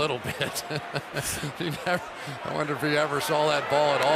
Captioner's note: laughter